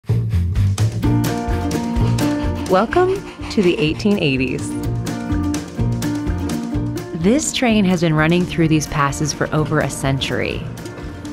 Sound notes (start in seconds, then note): 0.5 mid-tempo instrumental music; 3.1 voiceover